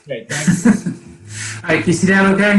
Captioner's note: chuckles